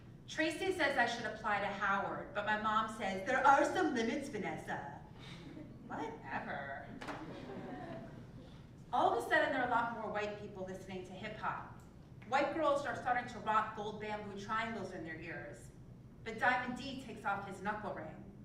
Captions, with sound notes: Tracy says I should apply to Howard but my mom says, there are some limits Vanessa, whatever. >> [LAUGH] >> All of the sudden there are a lot more white people listening to hip hop. White girls are starting to rock gold bamboo triangles in their ears, but Diamond D takes off his knuckle ring.